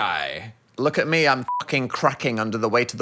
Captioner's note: beep